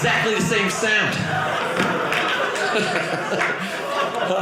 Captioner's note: audience laughing